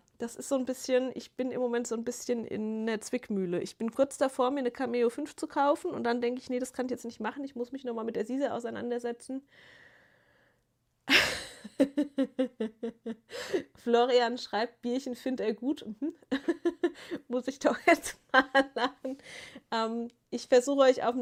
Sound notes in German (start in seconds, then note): 11.1 gelächter; 17.9 gelächter